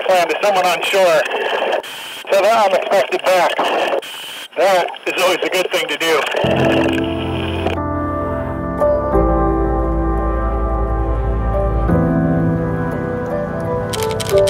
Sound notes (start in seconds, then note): 6.5 calm music; 6.5 camera shuttering